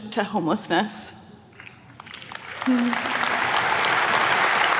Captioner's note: attendees clapping